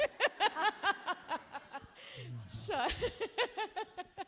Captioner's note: laughing